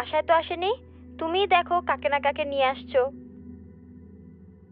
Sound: teasing voice

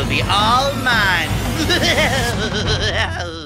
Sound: diabolical laughter

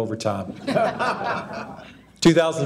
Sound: audience laughing

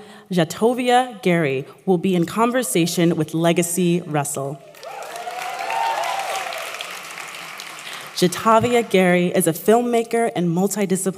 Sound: applause

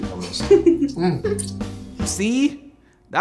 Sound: laughs

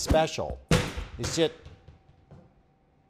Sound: loud Bang

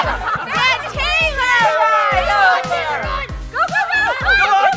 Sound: laughter; team yelling in Unison

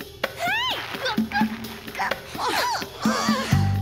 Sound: screaming

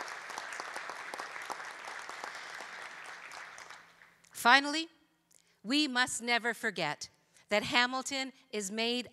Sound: applause

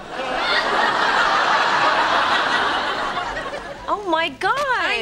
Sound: background laughter

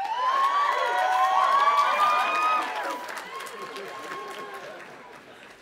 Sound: audience applauding and cheering

